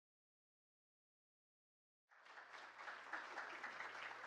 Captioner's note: applause